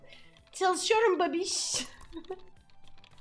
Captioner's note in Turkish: gülme